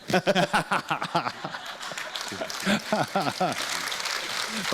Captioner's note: laughter; audience applause